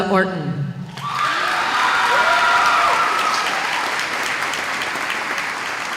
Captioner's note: applause